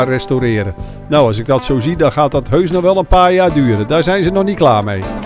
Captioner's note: voiceover